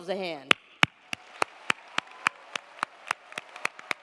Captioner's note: crowd applauding